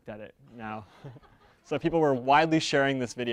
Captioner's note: audience members laughing